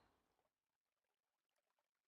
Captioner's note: nature sounds